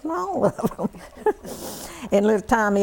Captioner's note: laughter